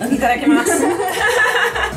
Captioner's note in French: rires